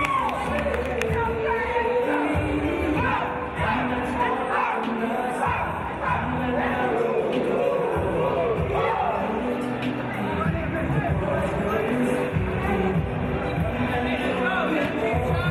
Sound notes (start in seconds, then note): 1.1 team chanting